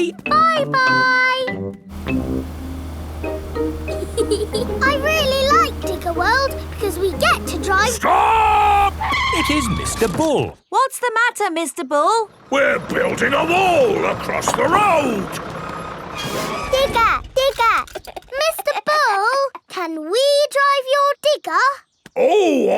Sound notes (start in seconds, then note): 3.9 george chuckling; 9.7 tires screeching; 18.0 chuckles